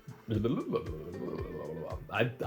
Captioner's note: burbles